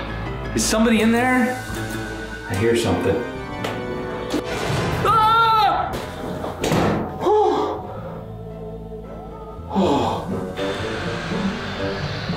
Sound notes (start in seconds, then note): 5.0 screams; 9.5 sighs